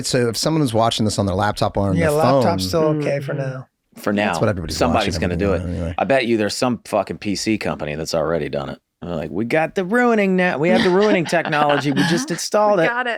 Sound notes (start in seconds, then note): 5.7 Rob mumbles